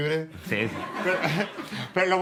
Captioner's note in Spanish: el publico ríe